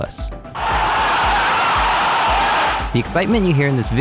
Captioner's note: crowd losing it